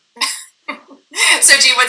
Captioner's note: laughing